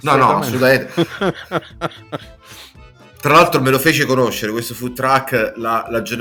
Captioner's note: laughs